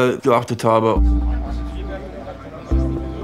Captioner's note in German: Stimmengewirr, sanfte Musik